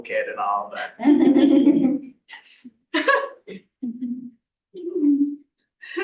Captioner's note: laughter